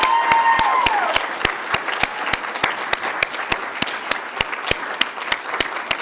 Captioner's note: audience cheers; audience applauds